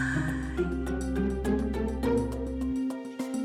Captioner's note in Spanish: Exclamaciones